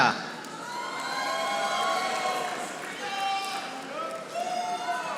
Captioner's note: audience applauding